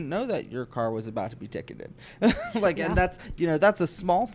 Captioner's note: laughs